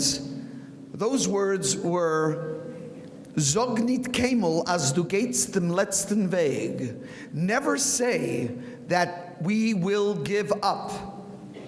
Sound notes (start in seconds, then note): 2.7 speaking in foreign language